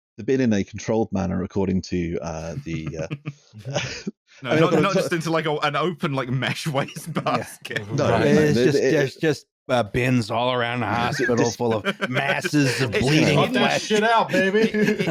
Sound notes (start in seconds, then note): 2.4 slow chuckle; 7.3 drowns in laughter; 10.8 laughing